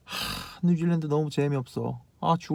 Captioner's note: sigh